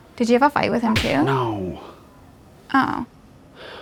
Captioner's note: cartoon punch sound